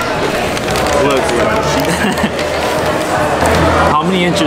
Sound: laughing

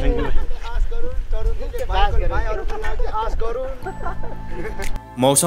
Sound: laughter and indistinct conversation

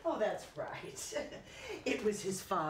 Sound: she chuckles

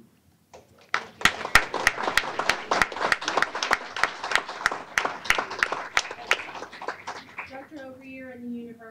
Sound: applause

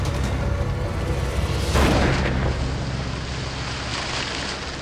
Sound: bang

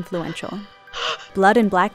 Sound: heavy breathing; gasps

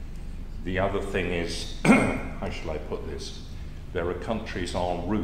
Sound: cough

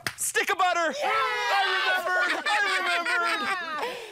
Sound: all cheer; laughs

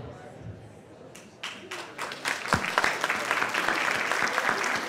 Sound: applause

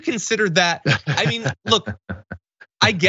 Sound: laugh

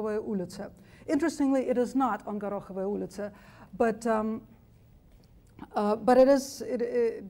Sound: speaks foreign language; speaks foreign language

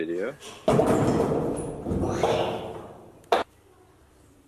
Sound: stool banging

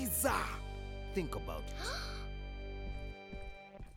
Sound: gasps

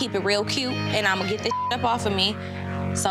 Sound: beep

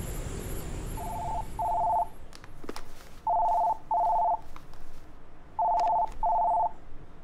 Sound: phone ringing

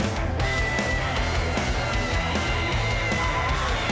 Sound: screaming

